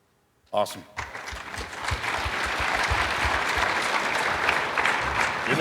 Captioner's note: audience applauding